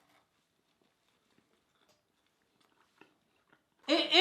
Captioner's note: both chewing